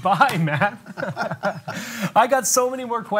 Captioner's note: laughs